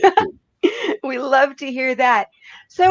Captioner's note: giggles